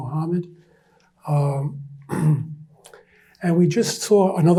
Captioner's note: clears throat